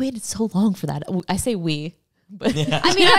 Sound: laughs

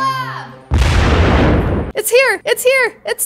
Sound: explosion bursting

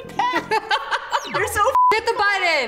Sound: laughing; beep

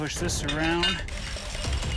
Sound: whirring

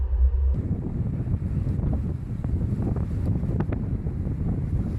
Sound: wind blowing

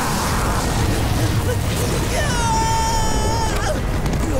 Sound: screaming

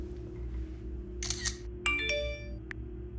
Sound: camera shutter; text alert

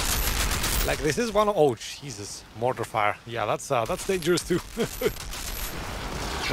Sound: laughs

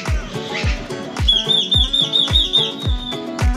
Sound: birds chirping

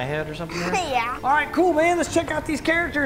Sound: laughing

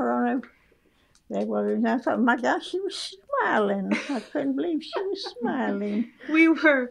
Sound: laughter

